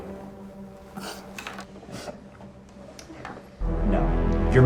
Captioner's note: Sofia sniffling